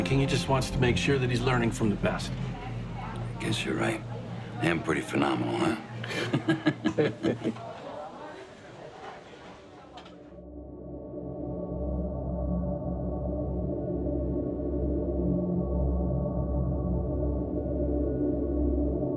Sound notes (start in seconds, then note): 6.0 both laugh; 10.6 ominous music